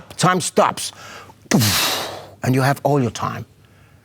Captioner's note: mimics explosion sound